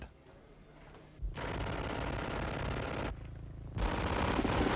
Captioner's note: guns firing